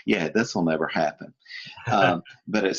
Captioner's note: laughing